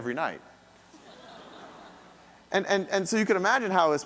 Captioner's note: audience laughing